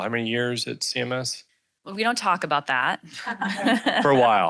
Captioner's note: laughs